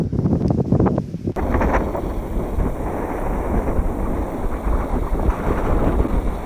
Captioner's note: wind noise